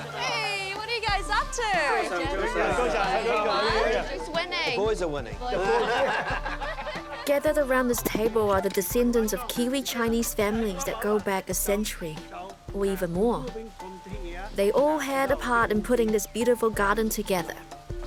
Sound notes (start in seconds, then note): 10.1 laughter